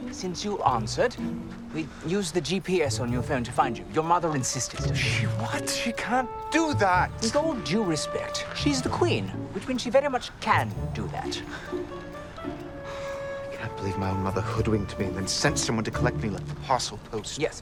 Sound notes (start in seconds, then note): 12.4 Nicolas sighs